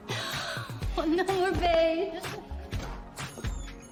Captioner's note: laughing